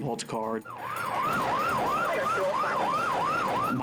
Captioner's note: sirens wail